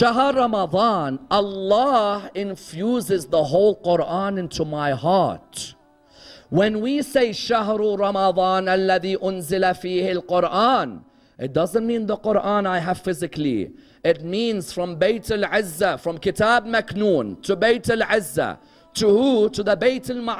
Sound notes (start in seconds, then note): 9.8 Arabic